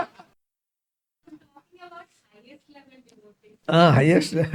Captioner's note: laughs